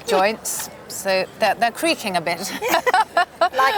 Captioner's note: laughs